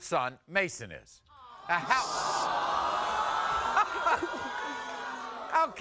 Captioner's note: audience vocalizing